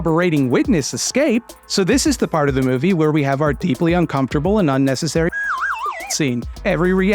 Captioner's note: slide whistle noise